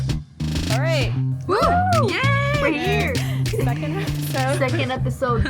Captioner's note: chorus of whoo